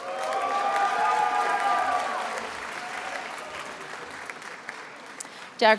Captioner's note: attendees applauding and cheering